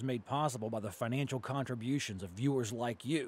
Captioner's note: voiceover